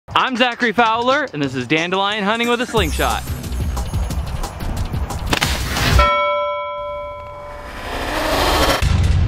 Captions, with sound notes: - I'm Zachary Fowler and this is dandelion hunting with a slingshot. (bell clangs)